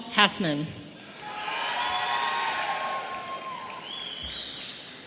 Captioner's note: audience cheering